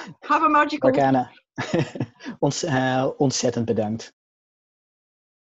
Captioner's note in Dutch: lacht